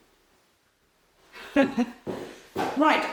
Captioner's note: woman laughs